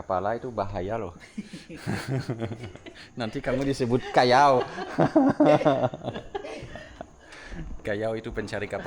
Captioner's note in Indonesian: tertawa; tertawa